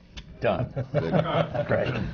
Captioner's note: laughs